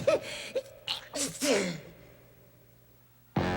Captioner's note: sneezing